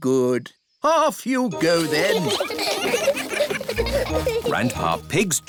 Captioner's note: giggling